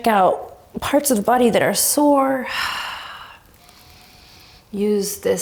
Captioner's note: deep breath